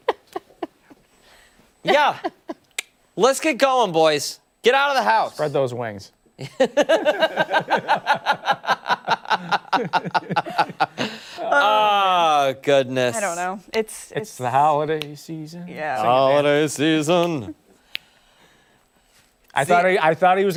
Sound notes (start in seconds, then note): 6.4 laughter